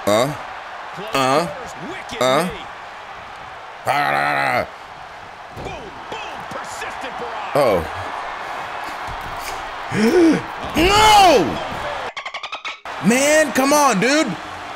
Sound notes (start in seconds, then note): 0.8 applause; 5.8 applause; 12.9 applause